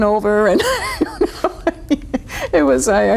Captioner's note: laughing